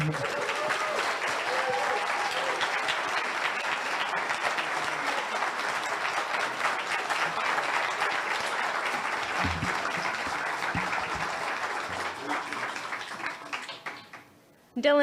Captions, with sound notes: Thank you, thank you everyone. (nervous laugh) (audience cheers)